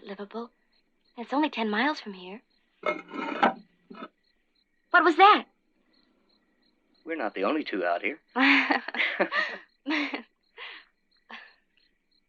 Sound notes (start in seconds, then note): 8.4 laughter